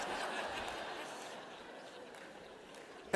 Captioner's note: laughter